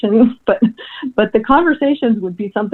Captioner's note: laughs